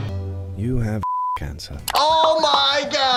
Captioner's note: upbeat music; beep